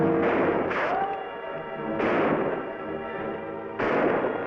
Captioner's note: gunshots bang